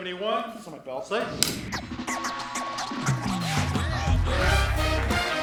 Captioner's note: air whooshes; upbeat music